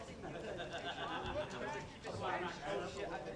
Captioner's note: laughter